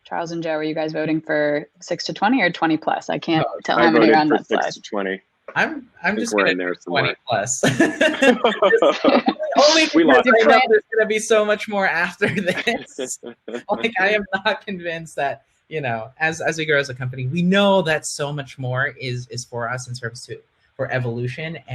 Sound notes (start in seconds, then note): 7.6 panel laughing; 12.3 laughing